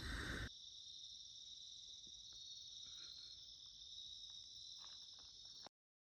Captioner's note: forest ambience